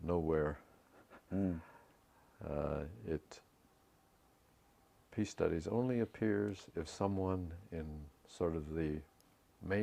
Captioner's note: laugh